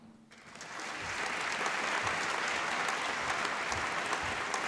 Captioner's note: applause